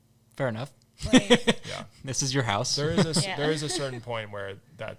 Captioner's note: laughing